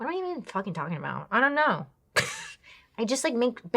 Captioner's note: laughs